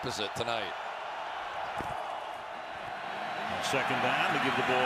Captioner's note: cheering